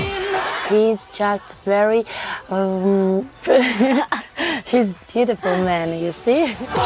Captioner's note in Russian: смех